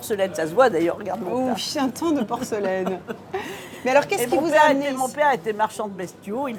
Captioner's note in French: rires